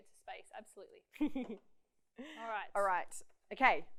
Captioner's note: laughs